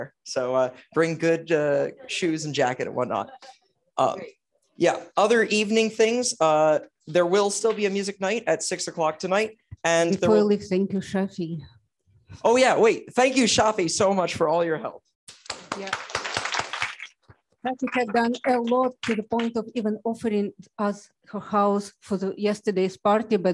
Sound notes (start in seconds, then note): 15.3 applause